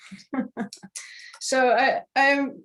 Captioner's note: laughing